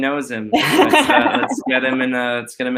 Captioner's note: laughing